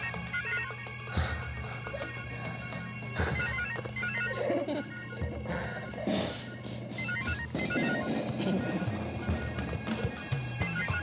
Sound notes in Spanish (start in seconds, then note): 0.3 suena el celular; 6.9 el celular sigue sonando